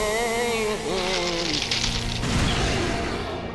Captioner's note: crackling; growling